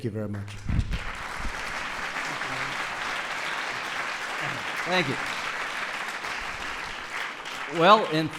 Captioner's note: applause